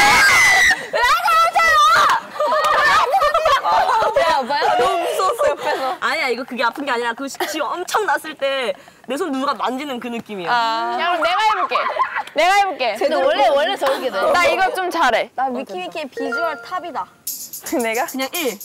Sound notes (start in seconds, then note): 2.2 laughing so hard